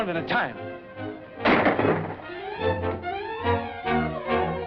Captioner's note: gunshots